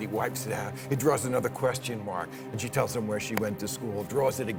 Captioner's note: none